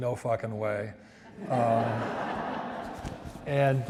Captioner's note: audience laughs